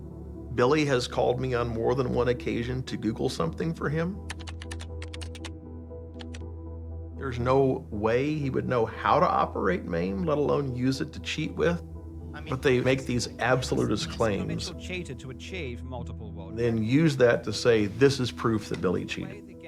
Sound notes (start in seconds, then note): 4.2 keyboard clacks; 4.4 soft tense music